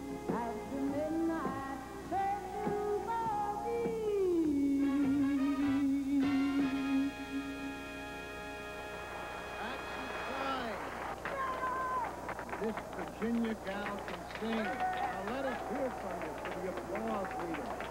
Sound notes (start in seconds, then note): 8.1 applause